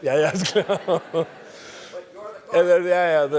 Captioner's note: laugh